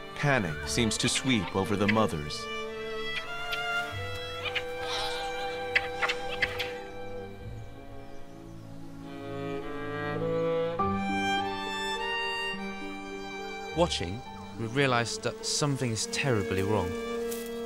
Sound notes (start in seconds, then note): 3.0 chattering